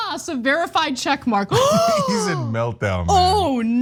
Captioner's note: laugh